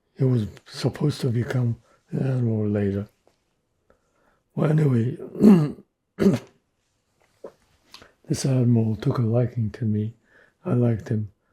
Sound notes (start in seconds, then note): 6.2 clears throat